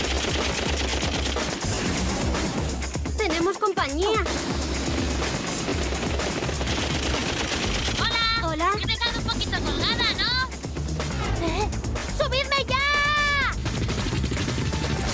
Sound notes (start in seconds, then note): 0.0 blasts; 4.3 blasts